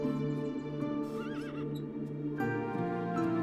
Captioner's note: birds chirping; horse whinnies